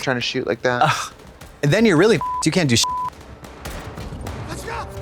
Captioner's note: beep